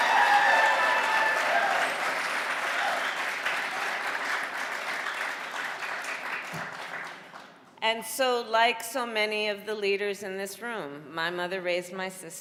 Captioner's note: cheering and applause